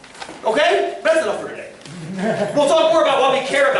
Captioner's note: laughter